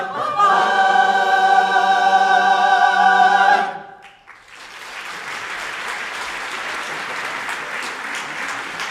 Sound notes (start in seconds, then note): 4.0 audience applauding